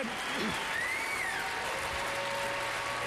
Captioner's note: applause